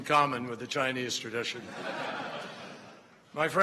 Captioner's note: laughter